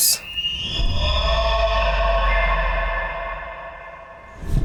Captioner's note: echoing deer bugle